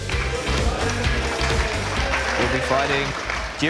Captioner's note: clapping